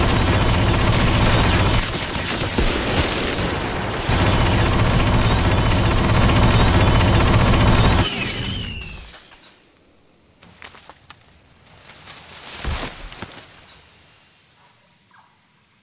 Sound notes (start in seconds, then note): 8.1 rotary cannon overheats